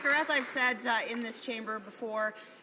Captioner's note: some Applause